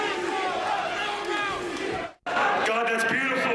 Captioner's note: crowd cheering